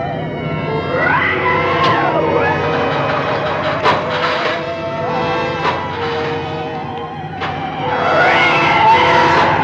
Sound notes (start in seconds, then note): 2.3 engine Stalls